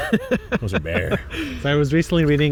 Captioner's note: laughs